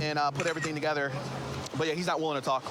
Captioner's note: camera app clicks